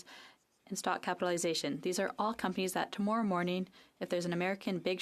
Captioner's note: speaking French